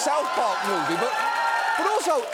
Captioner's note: studio audience cheering